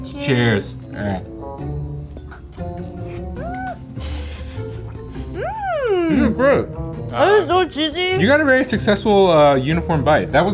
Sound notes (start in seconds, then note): 2.0 burger crunching; 3.9 laughing